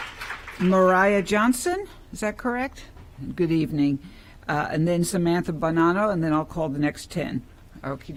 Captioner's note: applause